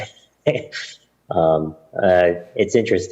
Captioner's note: questioner laughter